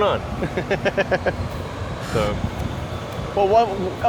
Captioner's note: laughs